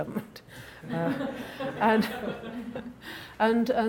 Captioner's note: laughing; chuckles